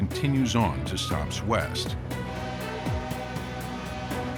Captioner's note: horn blows